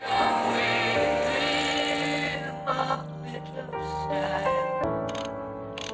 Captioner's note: distorted